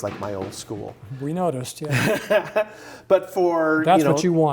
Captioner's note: laughing